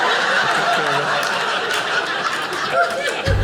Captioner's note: audience laughing